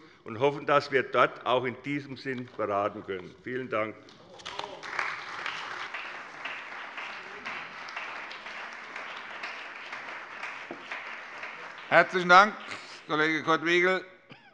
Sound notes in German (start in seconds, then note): 4.2 Beifall bei der CDU und bei Abgeordneten des BÜNDNISSES 90/DIE GRÜNEN